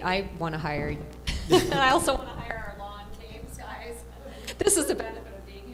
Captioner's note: laughter